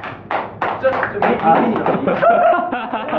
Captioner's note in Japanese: 拍手